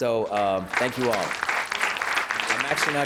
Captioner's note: applause